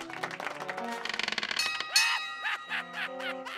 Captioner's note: bell clangs